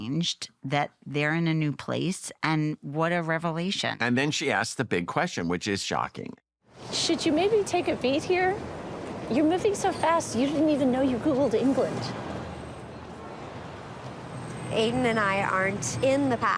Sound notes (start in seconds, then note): 12.1 traffic in background